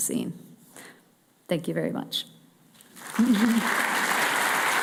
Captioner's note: applause